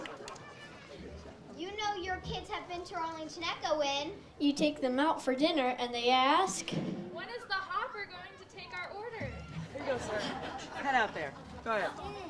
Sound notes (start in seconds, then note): 9.5 audience laughs